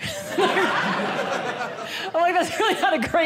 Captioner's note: audience laughing